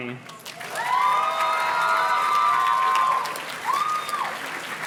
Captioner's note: audience cheers and claps